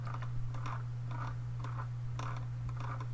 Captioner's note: scrolling